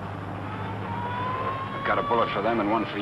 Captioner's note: siren blaring